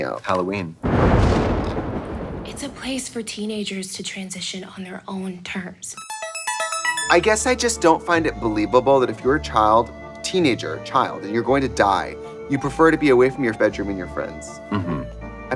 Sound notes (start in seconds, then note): 0.9 thunder and lightning booming; 6.0 bright electronic music; 6.0 lively scary music